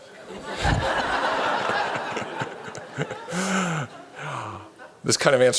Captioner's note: laughter